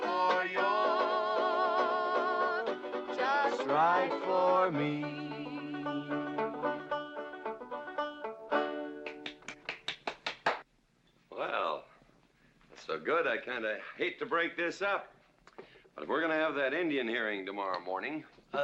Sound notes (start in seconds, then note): 6.1 strumming strings; 9.0 clapping